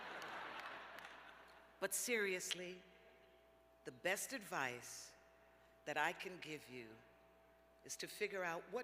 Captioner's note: laughter